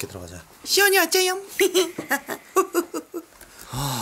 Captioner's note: laugh; deeply breathe out